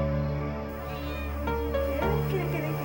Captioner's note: kitten meows